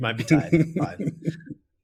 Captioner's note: laughs